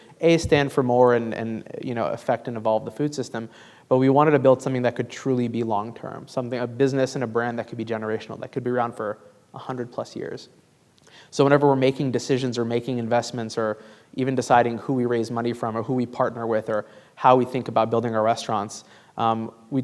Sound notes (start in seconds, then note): none